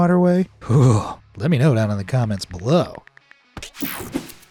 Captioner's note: shudders